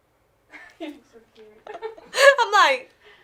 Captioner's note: laughs